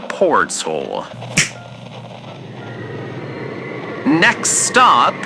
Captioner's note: snaps, portal opens fx